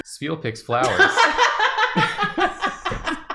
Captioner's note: laughter